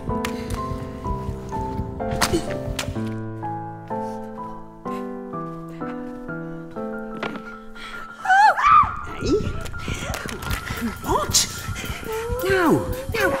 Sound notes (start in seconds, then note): 4.8 sniffles; 7.8 gasp; 7.8 yelling